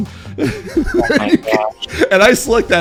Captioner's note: laughs